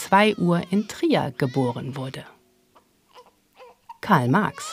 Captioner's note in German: Ein Baby schreit